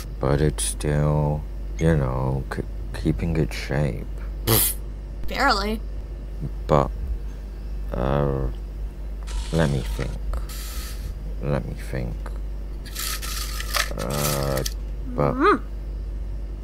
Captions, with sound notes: But it's still, y'know, k- keeping its shape..! Pfft. Barely. But. Uhmm.. Let me think. Let me think... [RUMMAGING] [RUMMAGING] Uhhh. But. Uhhh. But. [CLOSED GROAN]